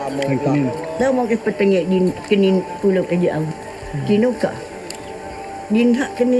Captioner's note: speaking in foreign language